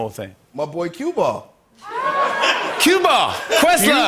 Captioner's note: laughter